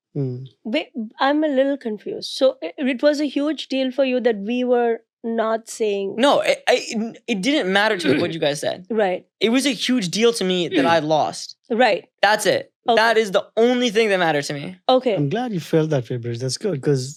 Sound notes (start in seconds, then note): 8.0 throat clearing; 10.7 throat clearing